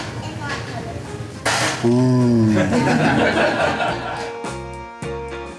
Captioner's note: crowd laughter